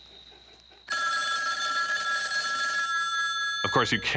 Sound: phone rings

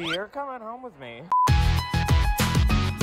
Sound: screen beeps; upbeat music

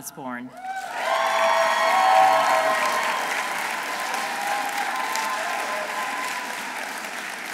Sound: audience applauding; audience cheering

